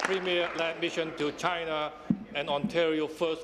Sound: applause

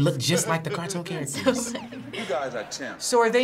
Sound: laughs

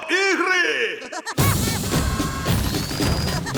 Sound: all yell; laughs; Woody laughs

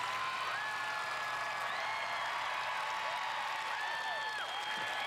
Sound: cheers and applause continue

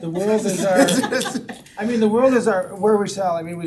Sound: all laughing

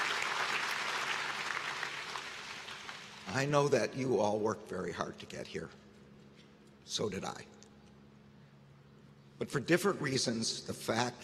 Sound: applause

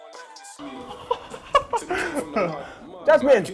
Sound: laughs

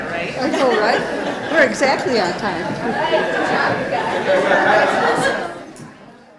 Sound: laughter

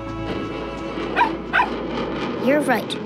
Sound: barking

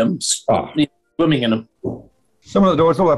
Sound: knock on horne's door

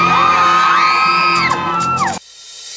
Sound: screams

